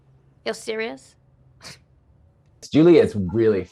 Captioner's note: scoffs